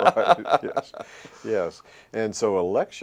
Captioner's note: laughter